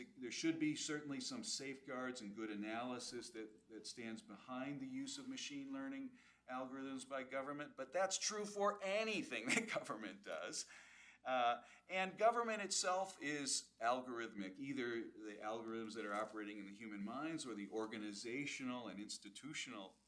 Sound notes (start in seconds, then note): 9.4 laughs